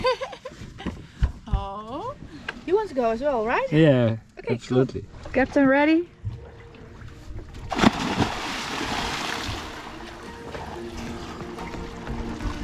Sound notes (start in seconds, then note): 0.1 laughs; 7.5 splashes